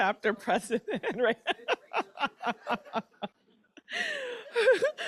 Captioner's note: laughter